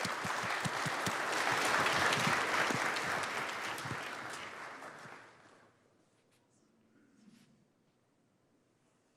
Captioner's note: applause